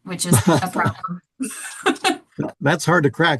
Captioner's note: chuckles